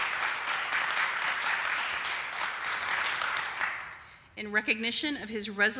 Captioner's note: applause